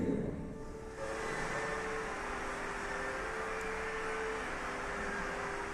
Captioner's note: applause on video